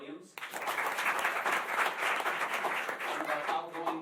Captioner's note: applause